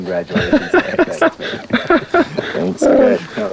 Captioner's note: laughing